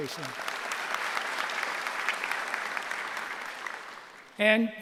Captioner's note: applause